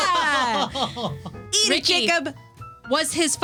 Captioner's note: laughing